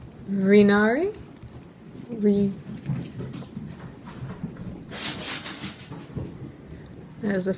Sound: frantict scrambling sounds

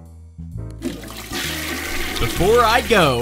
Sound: jazz Music; toilet Flushes

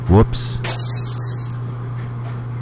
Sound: glass shatter

